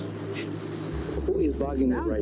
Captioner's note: recording playback